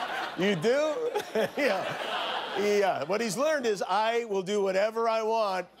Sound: laughter

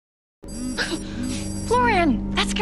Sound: phone ringing

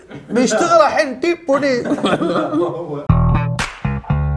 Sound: chuckles

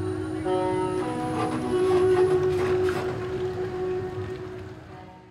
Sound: bus tones

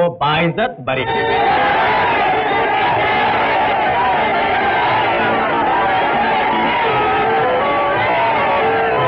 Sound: crowd cheering

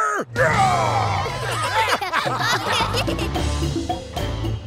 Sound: laughing

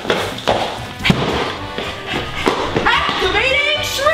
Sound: loud thud

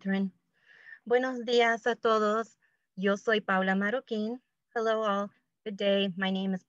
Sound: speaking spanish

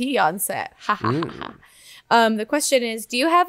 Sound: laughs

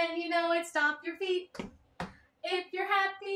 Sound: stomp

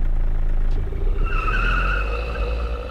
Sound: tyres screech

